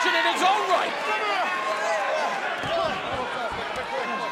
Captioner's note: crowd cheering